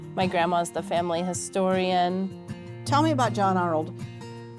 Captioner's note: none